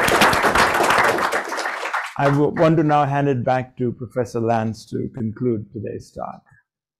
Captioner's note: applause